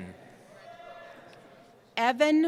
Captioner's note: cheering